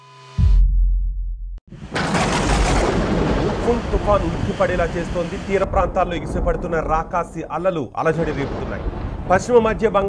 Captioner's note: thunder